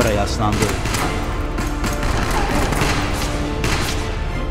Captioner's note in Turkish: Silah sesleri